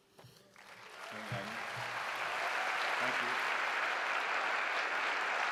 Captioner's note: applause